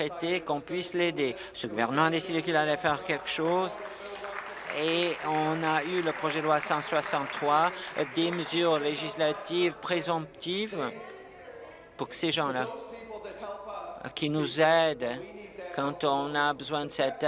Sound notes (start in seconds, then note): 10.3 applause